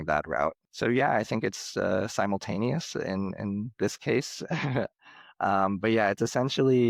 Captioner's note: chuckles